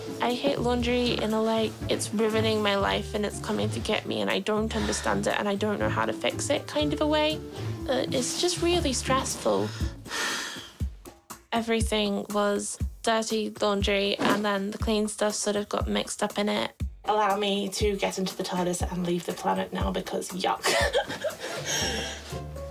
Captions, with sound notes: I hate laundry in the, like, it's ruining my life and it's coming to get me, and I don't understand it, and I don't know how to fix it kind of a way. It's just really stressful. (SIGHS) Everything was dirty laundry, and then the clean stuff sort of got mixed up in it. Allow me to get into the TARDIS and leave the planet now, because yuck. (LAUGHS)